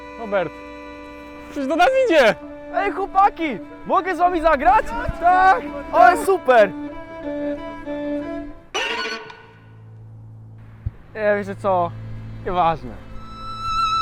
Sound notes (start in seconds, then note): 8.8 dramatic sound effect; 13.4 sad music